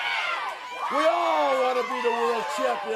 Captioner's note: crowd chatter